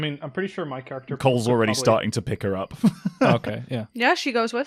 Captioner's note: laughs